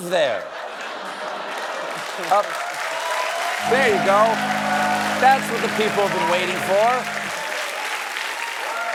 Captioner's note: applause